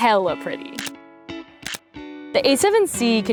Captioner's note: shutter clicking